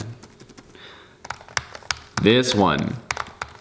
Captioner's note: clakky sound